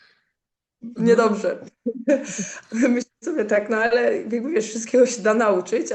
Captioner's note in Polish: śmiech